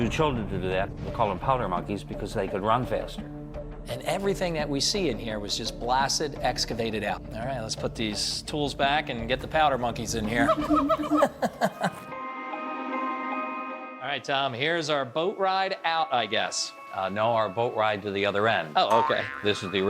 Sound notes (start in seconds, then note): 10.4 monkey howling; 10.4 eerie music